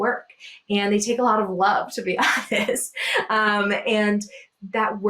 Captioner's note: chuckles